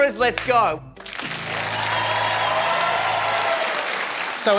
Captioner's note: cheering, applause